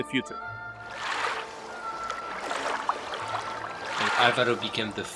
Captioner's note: waves lapping at shore